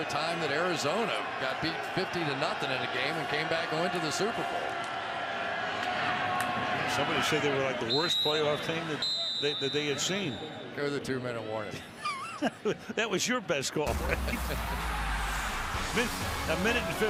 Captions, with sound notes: I can remember a timeout that Arizona got beat 50 to 0 in a game and came back and went to the Super Bowl. Somebody said they were like the worst playoff team that they had seen. [whistle blowing] There's the two-minute warning. [laughs] That was your best call, right?